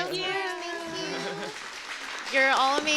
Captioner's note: applause